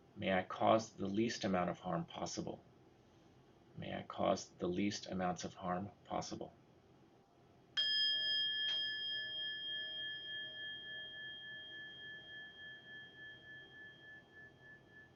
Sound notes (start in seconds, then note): 7.8 bell chiming